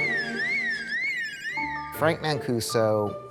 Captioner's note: alarm blaring